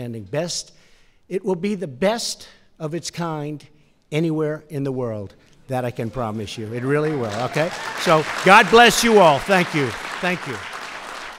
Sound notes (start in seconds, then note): 7.6 applause